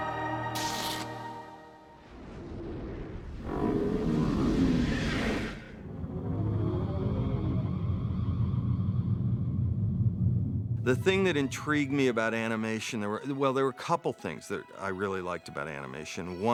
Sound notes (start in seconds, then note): none